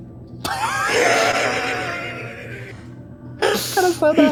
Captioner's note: laughter